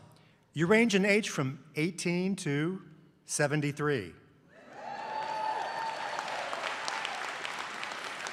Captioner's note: applause